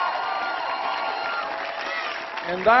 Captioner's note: applause